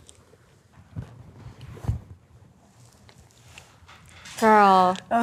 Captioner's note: lips smacking